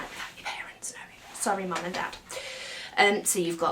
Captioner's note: whispers